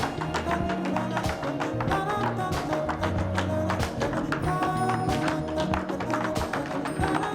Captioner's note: light jazz music; rhythmic tapping